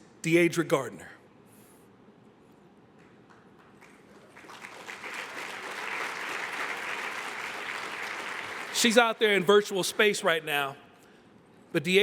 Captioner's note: applause